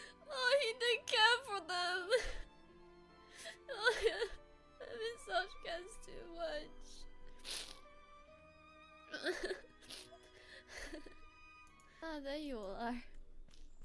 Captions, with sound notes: oh he DID care for them [ CRYING ] Emet-Selch cares too much... [ SNIFFING AND LAUGHING ] "Ah! There you all are!"